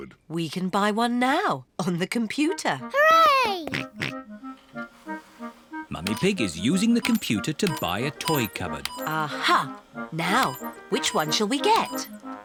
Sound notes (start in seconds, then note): 4.5 snorts